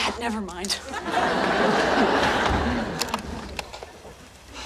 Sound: audience laughing

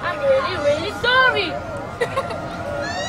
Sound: William laughs

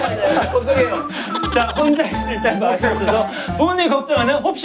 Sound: laughing

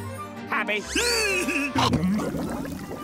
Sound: giggling

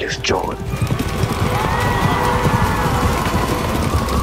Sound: horse galloping

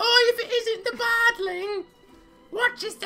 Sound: In an Eric Idle old lady voice

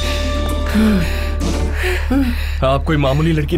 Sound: breathing heavily

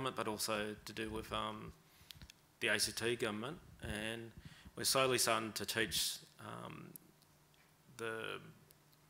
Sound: none

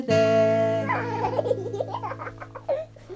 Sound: giggles

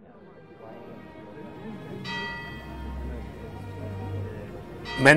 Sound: tolling bell + Music

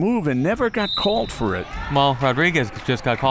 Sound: whistle

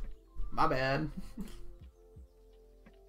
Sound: chuckles

